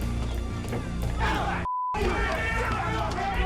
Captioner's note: yelling